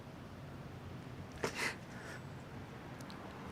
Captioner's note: cries